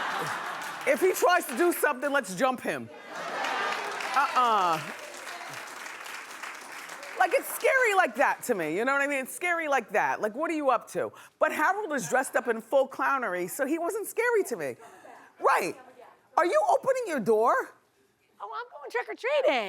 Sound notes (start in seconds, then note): 3.1 laughing